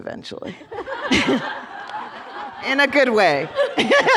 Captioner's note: laughter